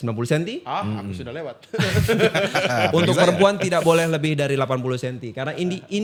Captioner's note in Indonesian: tertawa